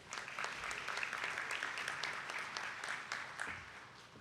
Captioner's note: attendees clapping